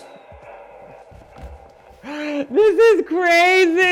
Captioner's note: thuds; wheezes; laughing